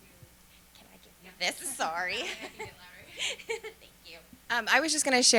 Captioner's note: laughter